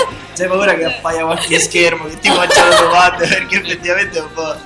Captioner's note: laugh